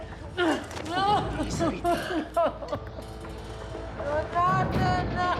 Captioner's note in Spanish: sollozos; sollozos